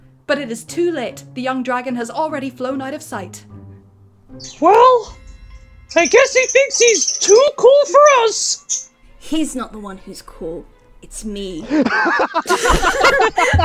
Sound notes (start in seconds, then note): 8.1 birb chirping; 11.7 laughter